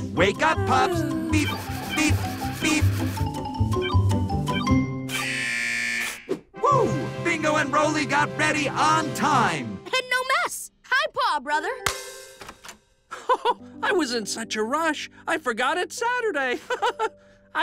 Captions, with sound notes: Wake up, pups. Beep, beep, beep. -(beeping) -(alarm buzzes) Woo! Bingo and Rolly got ready on time! And no mess! High paw, brother! -(door opens) (laughs) I was in such a rush, I forgot it's Saturday! (laughs)